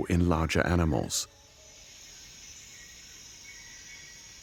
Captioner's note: birds chirping; insects trilling